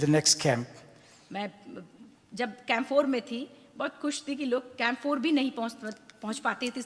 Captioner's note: speaks foreign language